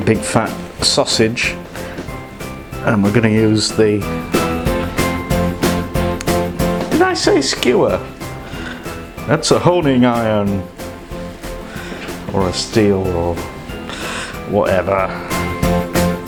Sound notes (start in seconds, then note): none